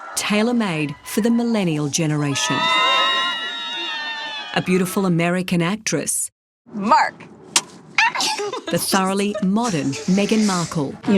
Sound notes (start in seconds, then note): 2.3 screaming; 8.0 laughs